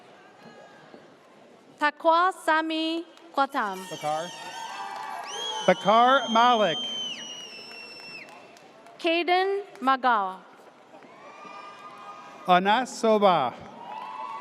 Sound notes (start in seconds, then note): 3.8 audience cheers; 11.1 audience cheers